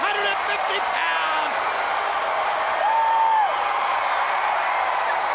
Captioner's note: crowd cheering